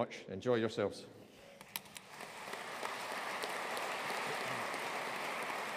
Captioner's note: audience applauding